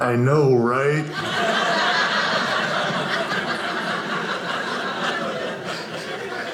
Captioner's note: audience laughing